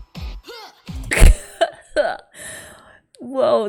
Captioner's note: laughs